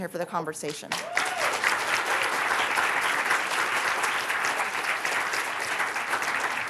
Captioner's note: applause